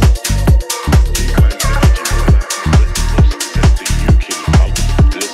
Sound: man's voice echoes

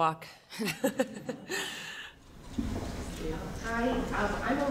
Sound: laughing

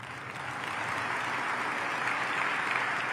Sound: applause

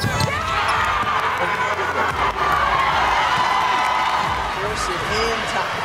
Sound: cheers and applause

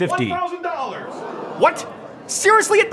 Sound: audience gasps in surprise

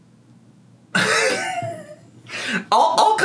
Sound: laughs

